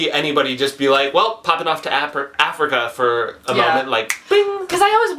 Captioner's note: snaps fingers